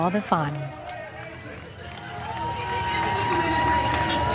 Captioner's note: cheers and applause